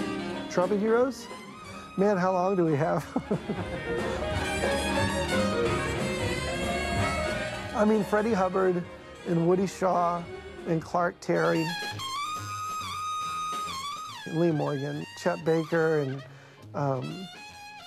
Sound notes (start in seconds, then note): 3.0 chuckles; 11.3 trumpet wailing